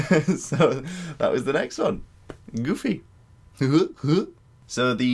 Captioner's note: goofy laugh